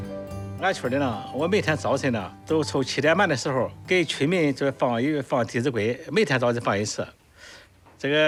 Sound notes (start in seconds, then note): 0.9 hablan un idioma extranjero